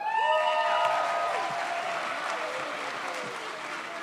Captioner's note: audience cheers